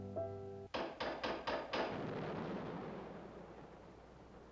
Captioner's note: knocking Continues